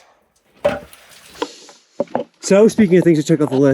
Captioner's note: wood clattering